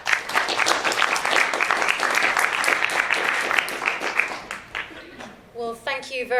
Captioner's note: applause